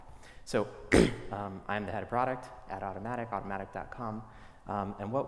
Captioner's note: cough